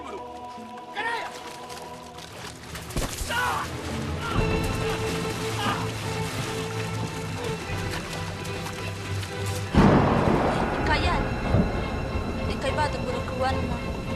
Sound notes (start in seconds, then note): 2.9 grunting; 9.7 thunder crashes